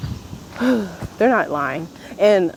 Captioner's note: sighs